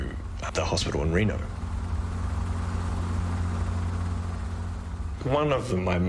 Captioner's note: helicopter blades whir